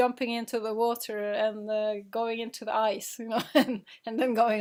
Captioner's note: laughing